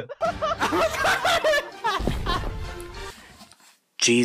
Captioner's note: retarded laughter